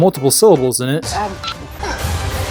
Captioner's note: grenade beeps